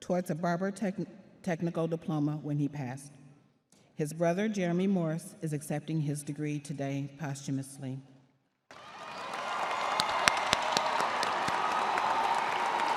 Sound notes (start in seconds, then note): 8.7 crowd applauding